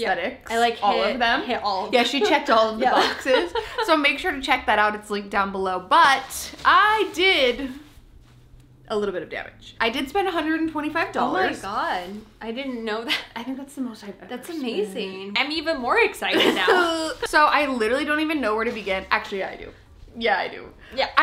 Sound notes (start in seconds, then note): 3.4 laughs; 16.3 laughs